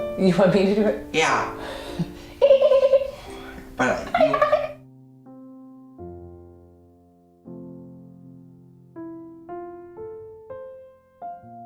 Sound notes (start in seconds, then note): 2.0 chuckles; 3.8 imitates dolphin